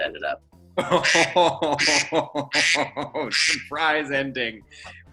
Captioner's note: laughing